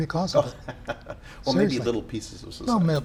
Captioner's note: laughs